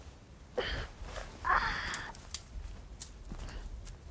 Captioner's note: groaning